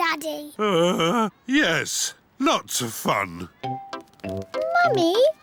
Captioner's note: groans